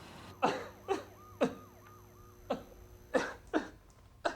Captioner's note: man sobbing